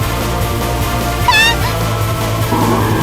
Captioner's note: screams